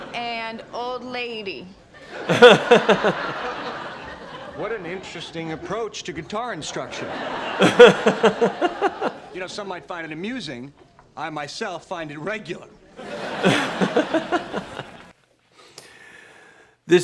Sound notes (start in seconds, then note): 2.0 audience laughs; 2.2 laughs; 6.7 audience laughs; 7.5 laughs; 13.0 audience laughs; 13.1 laughs